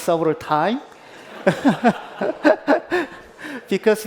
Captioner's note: laughter